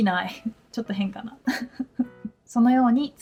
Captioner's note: laughs